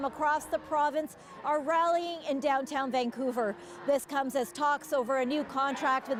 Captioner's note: cheering